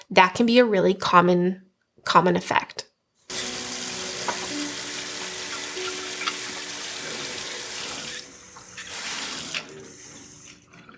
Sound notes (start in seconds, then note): 3.3 water running